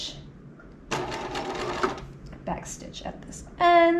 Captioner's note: sewing machine whirling